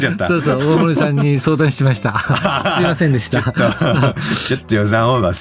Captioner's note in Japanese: 笑い